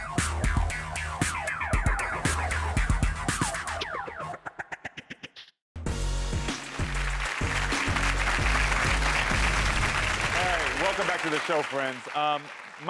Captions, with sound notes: (upbeat music) (crowd cheering) All right, welcome back to the show friends.